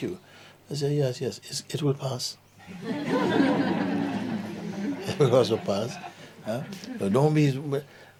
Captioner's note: laughter